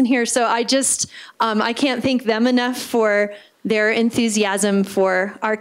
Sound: gasp

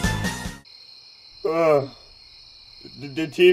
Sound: Coin yawns

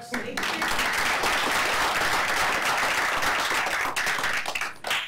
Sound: applause

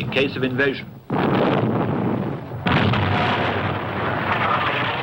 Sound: explosions booming

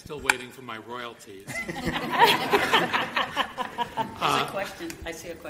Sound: group laughing

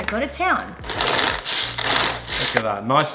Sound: processor crackling

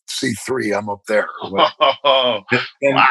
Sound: laughter

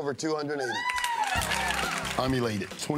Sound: crowd cheers

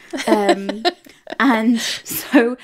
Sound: laughing

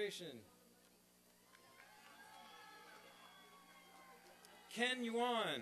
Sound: applause and cheering

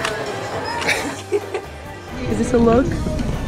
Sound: laughs

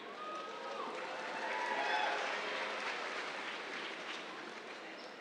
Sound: cheers, applause

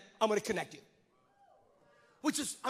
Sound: congregants cheer

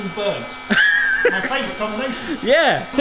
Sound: laughs

